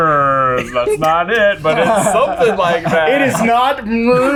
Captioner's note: laughing